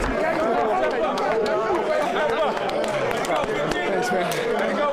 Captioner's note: all cheering indistinctly